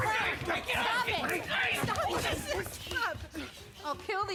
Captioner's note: sobbing